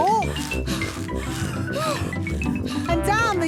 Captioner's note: puffing and panting